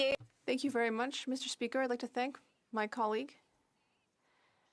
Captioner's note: speaking French